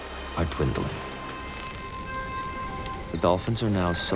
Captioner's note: dolphin clicking